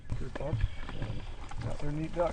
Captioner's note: whispering